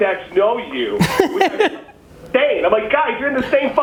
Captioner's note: laughs